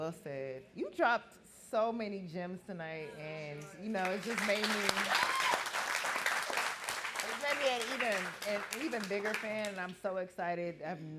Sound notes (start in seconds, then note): 4.0 audience clapping